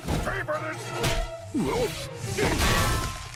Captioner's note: kick landing, Captain Grime grunts; hammer slams